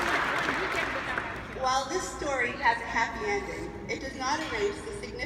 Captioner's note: applause